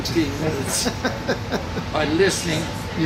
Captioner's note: laughing